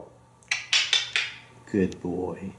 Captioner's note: squirrel sound